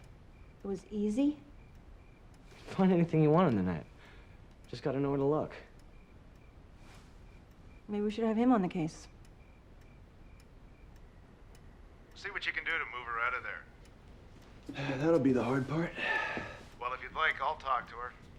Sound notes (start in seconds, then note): 15.8 exhales